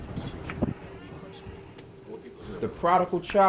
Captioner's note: door creaking